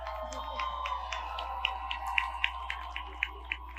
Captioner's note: audience cheers